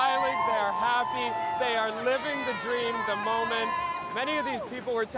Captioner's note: cheers